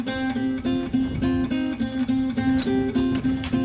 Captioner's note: footsteps; guitar music continues